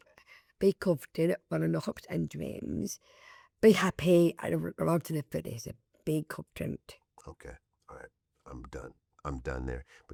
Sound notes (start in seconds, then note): none